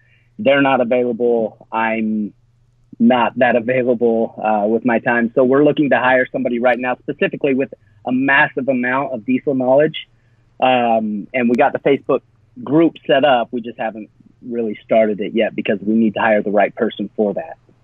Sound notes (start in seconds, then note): none